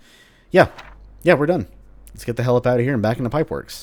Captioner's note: journal closes